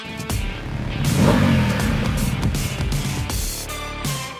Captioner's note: engine rumbling